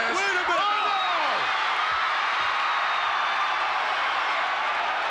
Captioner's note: crowd cheers